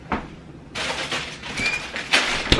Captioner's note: plastic crinkling